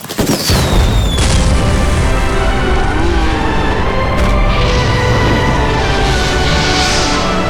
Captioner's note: well timed explosion